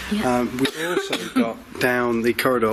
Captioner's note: coughs